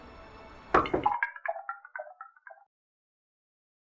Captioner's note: knock on window